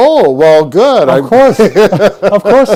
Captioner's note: laughs